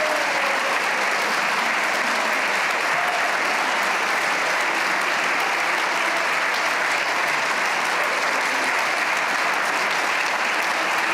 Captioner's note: cheers and applause